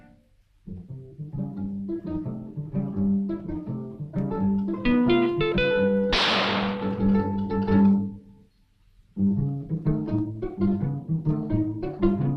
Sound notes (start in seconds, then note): 6.1 gun shoots; 8.5 suspenseful music